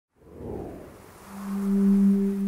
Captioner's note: a swooshing sound